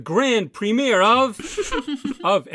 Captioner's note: more contestants laugh